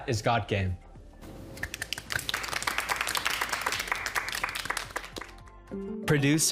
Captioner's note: applauding